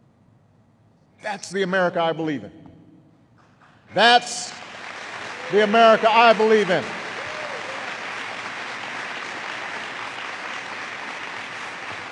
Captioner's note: applause